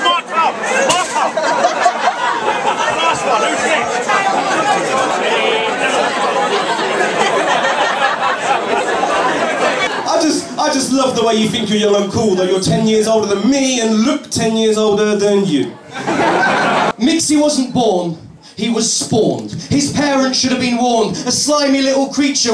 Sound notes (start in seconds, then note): 4.3 laughing, chatting